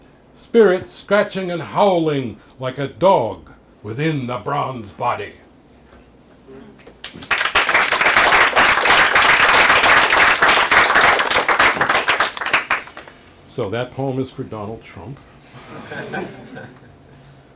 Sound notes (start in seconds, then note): 7.0 applause; 15.6 laughter